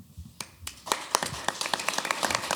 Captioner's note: applause